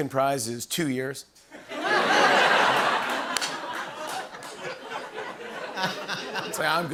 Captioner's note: laughter